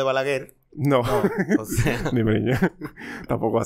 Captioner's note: laughs